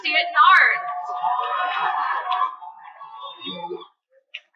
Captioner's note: cheering; cheers and Applause